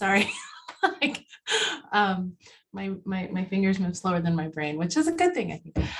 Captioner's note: laugh